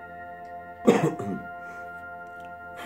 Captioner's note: cough